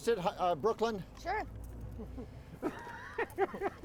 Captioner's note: laughing